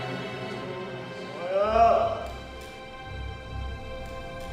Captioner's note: groaning